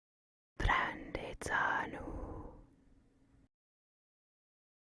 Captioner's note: whispering in Madovna